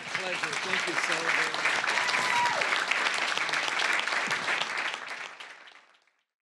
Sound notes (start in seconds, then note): 2.7 applause